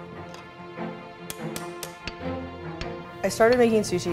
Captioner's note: utensils clank